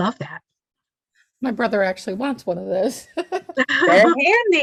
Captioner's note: laughs